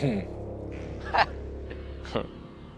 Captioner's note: laughs; chuckles